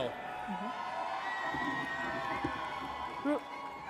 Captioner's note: audience cheers